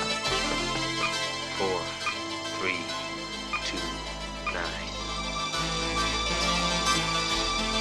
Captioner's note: buttons beeping